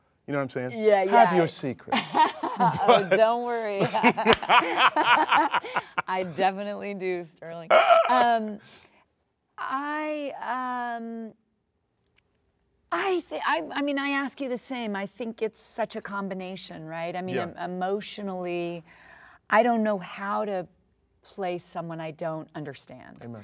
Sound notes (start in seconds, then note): 2.0 laughs; 3.9 both laugh